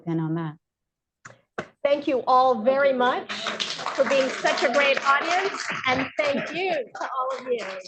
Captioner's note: applause